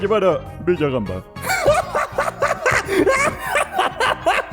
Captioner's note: laughing hysterically